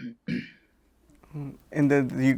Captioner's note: clears throat